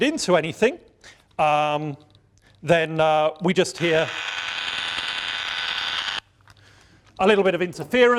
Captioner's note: static sound